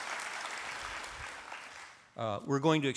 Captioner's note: applause